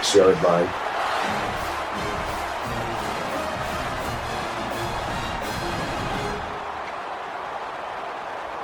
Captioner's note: crowd cheering